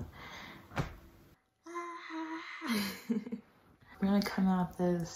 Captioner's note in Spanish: risa incómoda